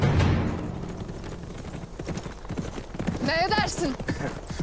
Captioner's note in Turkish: Nasl sesleri; Gülüyor